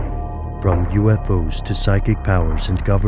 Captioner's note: voiceover